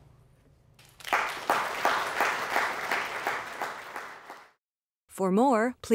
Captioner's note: applause